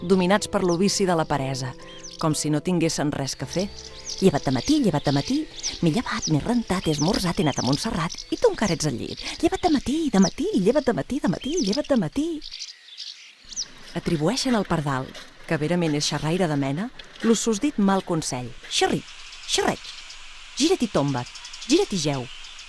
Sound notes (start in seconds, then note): 12.6 singing of swallows